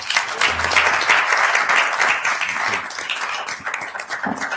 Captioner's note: audience applauds